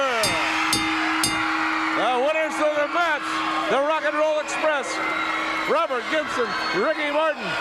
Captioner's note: bell ringing